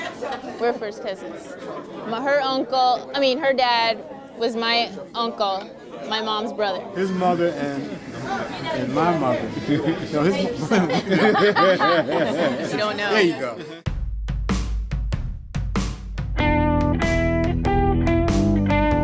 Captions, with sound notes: - We're first cousins. Her uncle, I mean her dad was my uncle, my mom's brother. - His mother and my mother, no his-- - (laughs) - We don't know. - There you go. (blues music)